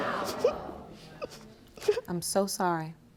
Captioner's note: crying